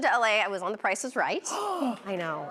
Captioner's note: gasps